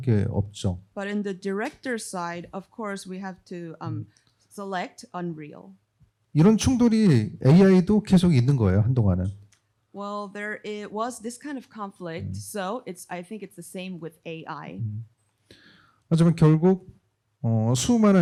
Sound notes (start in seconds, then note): 6.2 speaking korean; 15.5 speaking korean